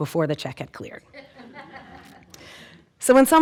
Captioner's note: audience laughing